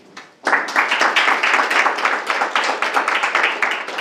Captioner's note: group clapping